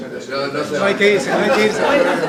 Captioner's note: risas